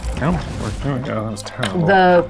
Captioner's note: die rattling